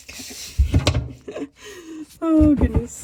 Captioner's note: laughs